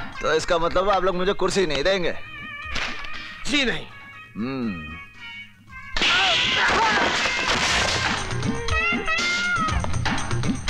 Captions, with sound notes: So that means you won't offer me a chair? No. (Slap)